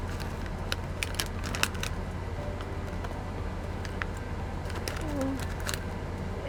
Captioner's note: bag crinkling; soft music